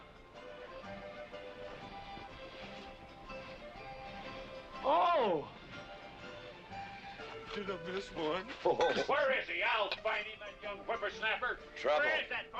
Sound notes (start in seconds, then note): 8.5 chuckling